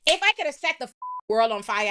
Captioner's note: beep